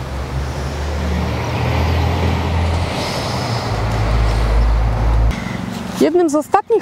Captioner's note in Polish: odgłos przejeżdżających nieopodal samochodów